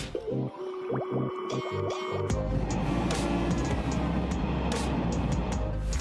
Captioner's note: engines humming